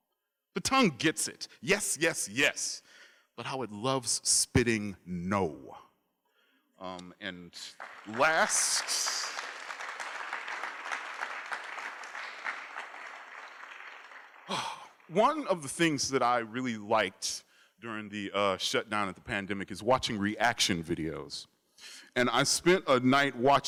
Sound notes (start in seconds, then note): 7.6 applause; 14.4 exhales